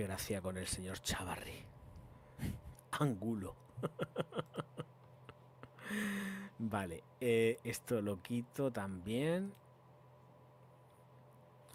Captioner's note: laughs